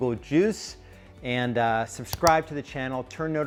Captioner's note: clicks